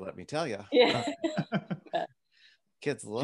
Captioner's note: laughs